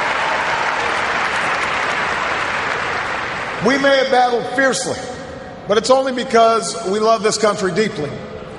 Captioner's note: cheers, applause